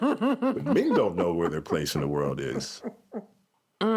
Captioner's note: laughs